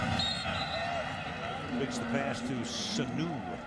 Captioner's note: whistle blows